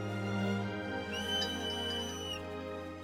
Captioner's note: Peter’s whistle